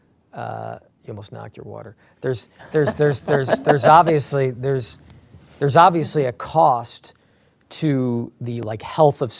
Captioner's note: laughter